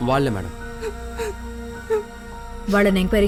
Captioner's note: crying